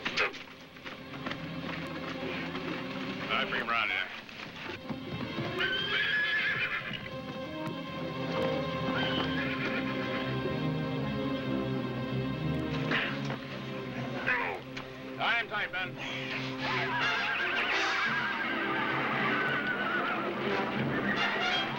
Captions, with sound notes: COME ON. BRING HIM AROUND HERE. [ Grunting ] UNTIE HIM, MEN. [ Horses Whinnying, Men Shouting ]